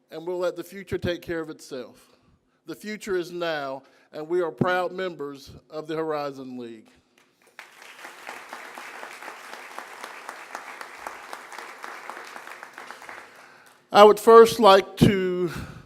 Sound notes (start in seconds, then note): 7.2 applause